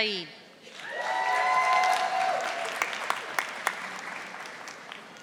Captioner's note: audience applauding